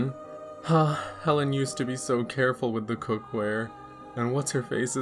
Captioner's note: sighs wistfully